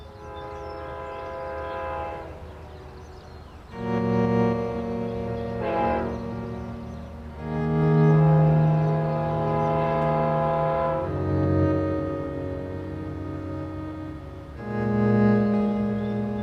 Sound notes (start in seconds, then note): 0.1 distant train horn blares; 4.0 somber electronic music; 5.7 distant train horn blares